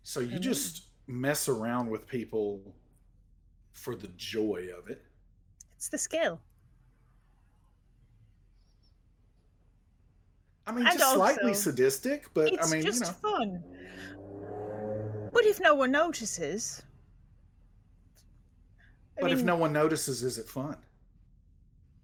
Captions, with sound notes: - So you just mess around with people for the joy of it. - It's the skill. - I Mean, just slightly sadistic, but mean. - It's just fun. (vehicle whirring) What if no one notices. - But if no one notices, is it fun?